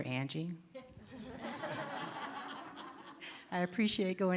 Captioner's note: laughter